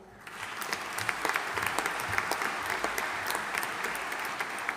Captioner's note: audience applauding